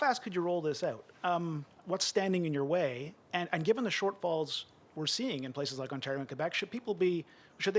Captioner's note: speaking French